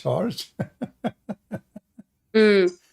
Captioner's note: Ketawa